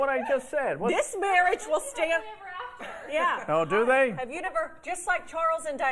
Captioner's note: laughter